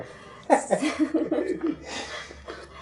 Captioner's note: out of frame chuckles and giggles